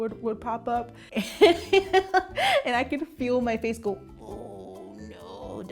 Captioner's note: laughs